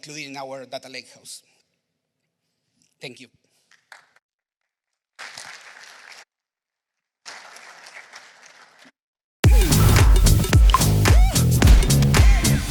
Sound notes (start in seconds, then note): 5.0 applause